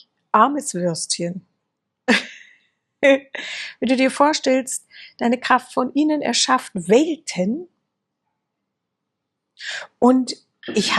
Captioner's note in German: gelächter